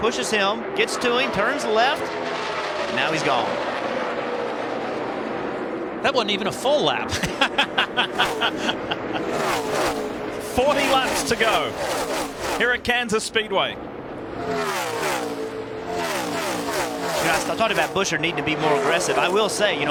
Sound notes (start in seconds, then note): 7.0 laughter